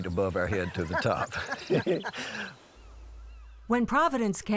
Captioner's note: laughter